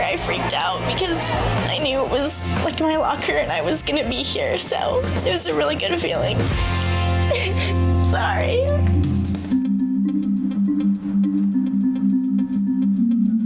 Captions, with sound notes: I freaked out because I knew it was my locker and I was gonna be here. So, it was a really good feeling. (cries) Sorry. (dramatic music)